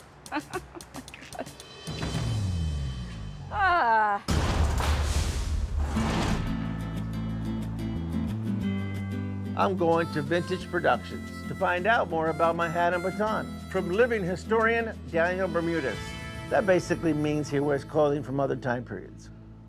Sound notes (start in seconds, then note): 0.2 laughing; 4.2 echoing slam; 5.8 upbeat music